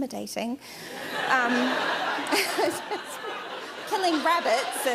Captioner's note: laughter